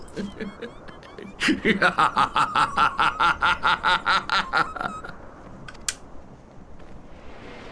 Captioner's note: laughs